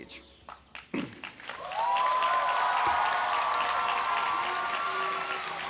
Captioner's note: applause, cheering